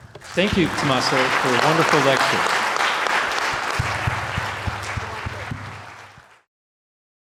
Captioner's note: audience applauding